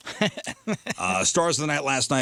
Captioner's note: laughing